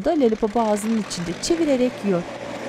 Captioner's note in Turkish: Traktör sesi